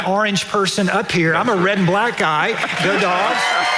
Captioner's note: audience laughing; cheering